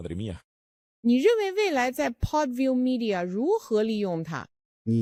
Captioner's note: speaking Chinese